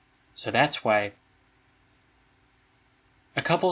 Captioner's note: beat